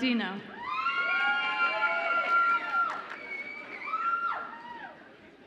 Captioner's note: audience applauds and cheers